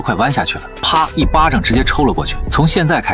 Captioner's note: slap